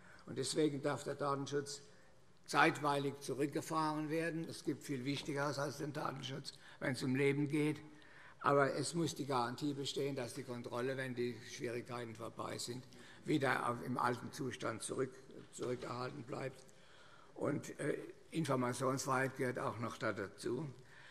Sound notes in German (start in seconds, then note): none